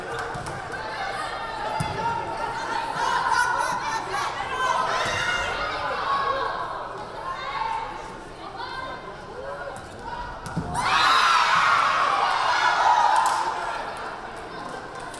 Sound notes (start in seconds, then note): 0.7 crowd yelling; 10.7 crowd cheering